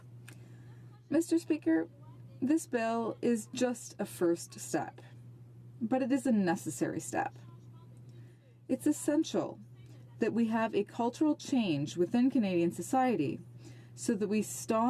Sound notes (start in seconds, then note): 6.4 speaking in French